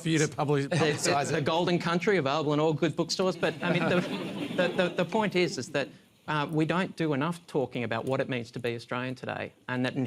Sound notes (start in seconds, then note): 3.4 laughter